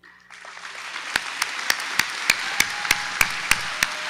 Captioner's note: audience applauding